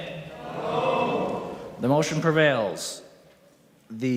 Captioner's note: chorus of ayes